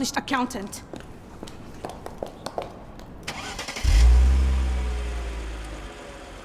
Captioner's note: car engine revving; footsteps tapping